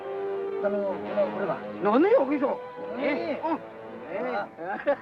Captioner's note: men speaking in Japanese